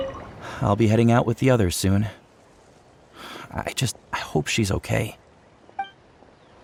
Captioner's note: sigh